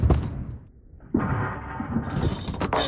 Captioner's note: bar rattling in slow-motion